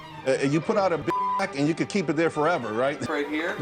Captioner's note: beep